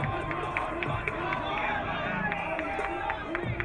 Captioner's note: crowd cheering